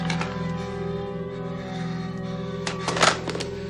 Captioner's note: dial tone